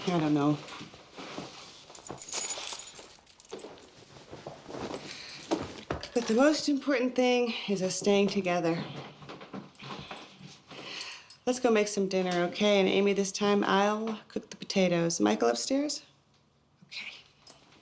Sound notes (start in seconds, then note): none